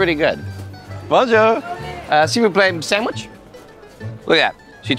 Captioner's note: speaking in french